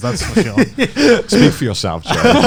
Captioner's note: laughing